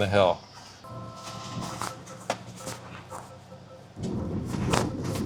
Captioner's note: truck beeping